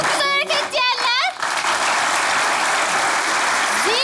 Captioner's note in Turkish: Alkış sesleri